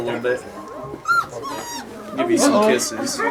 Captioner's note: makes a squeaky whinny noise